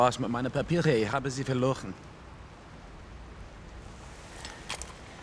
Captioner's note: speaking foreign language